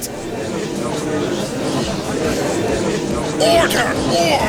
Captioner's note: gallery chattering